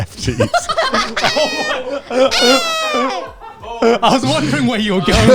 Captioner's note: everyone laughing